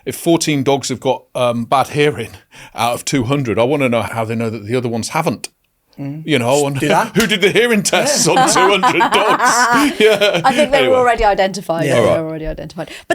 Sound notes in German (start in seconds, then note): 6.5 lacht; 6.9 klatscht in die Hände